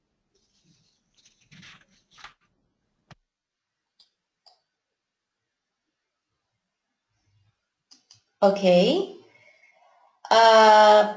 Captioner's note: silence